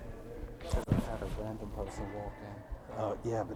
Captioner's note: man speaking off microphone